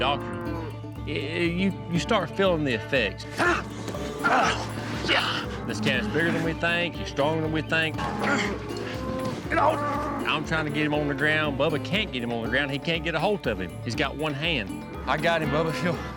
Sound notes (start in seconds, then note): 3.3 both grunting; 8.0 grunting